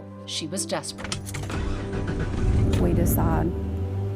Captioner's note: engine cranks